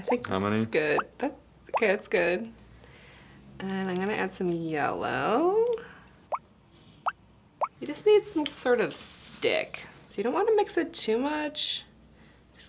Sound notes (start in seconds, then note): 6.3 dripping